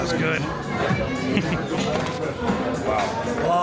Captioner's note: chuckles